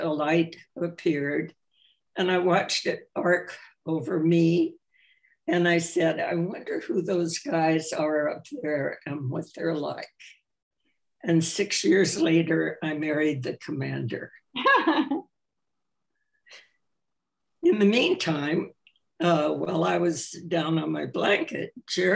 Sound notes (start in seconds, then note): 14.6 laughs